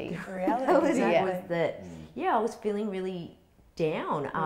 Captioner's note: chuckles